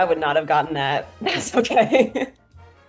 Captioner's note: laughing